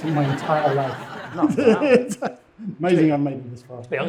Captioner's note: laughing; audience laughing